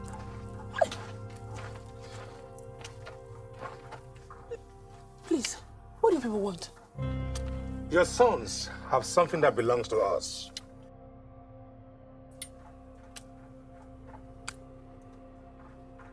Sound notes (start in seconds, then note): none